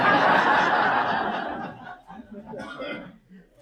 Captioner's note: audience laughs